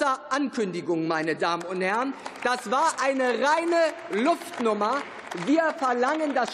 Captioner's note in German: Beifall